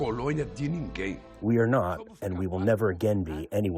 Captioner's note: through translator